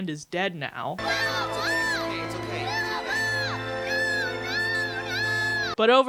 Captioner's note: screaming